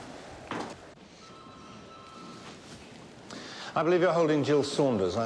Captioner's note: phone ringing